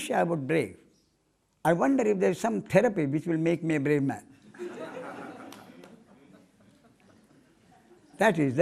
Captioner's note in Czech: smích